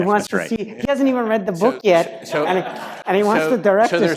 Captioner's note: laugh